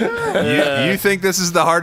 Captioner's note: laugh